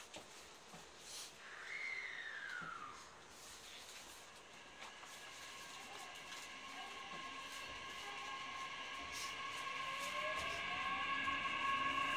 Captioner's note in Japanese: 加速音